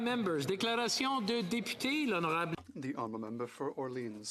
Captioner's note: speaking French